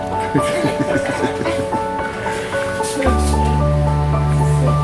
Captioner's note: laughing